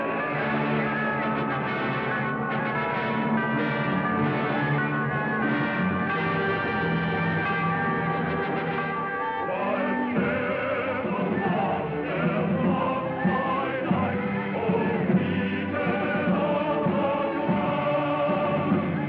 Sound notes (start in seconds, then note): 0.1 shouting Continues; 5.6 bell Tolling